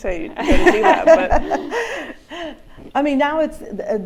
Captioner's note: laughter